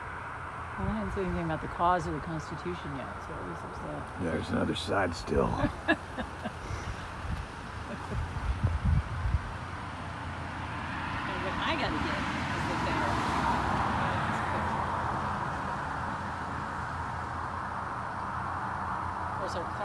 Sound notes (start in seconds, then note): 4.7 laughs